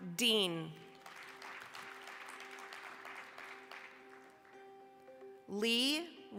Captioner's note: applause